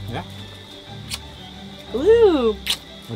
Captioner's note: lips smacking